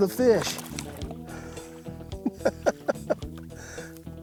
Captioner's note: laughs